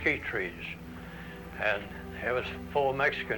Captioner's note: none